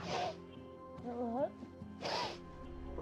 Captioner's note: sniffles